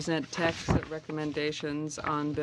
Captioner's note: speaking French